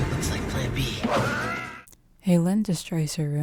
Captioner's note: dramatic sound; screams